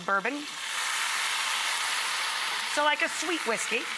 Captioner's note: pan simmering